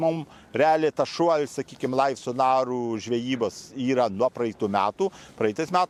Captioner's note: lithuanian